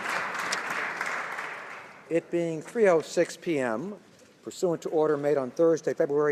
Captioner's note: some Applause